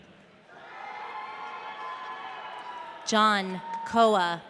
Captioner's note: audience cheering